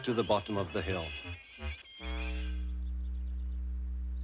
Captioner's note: screeching